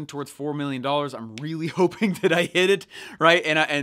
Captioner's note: laughing